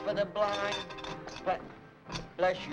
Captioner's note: coin clanks